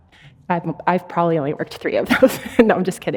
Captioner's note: chuckles